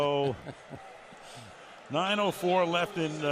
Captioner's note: laughs